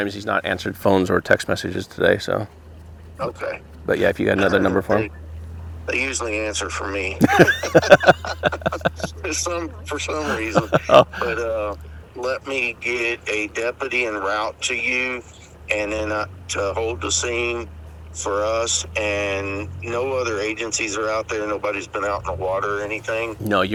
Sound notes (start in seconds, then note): 7.2 all laughing